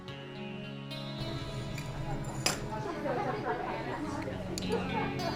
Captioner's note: metal clanking